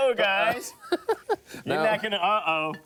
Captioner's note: laughs